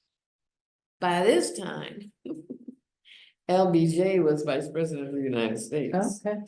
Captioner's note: laughs